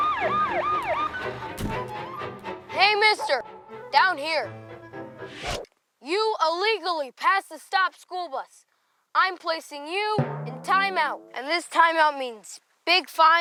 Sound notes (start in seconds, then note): 0.0 siren